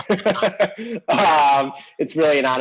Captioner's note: laughs